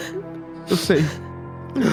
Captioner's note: crying; crying